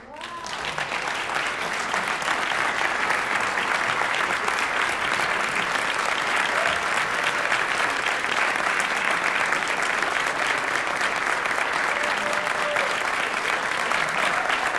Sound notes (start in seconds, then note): 0.0 applause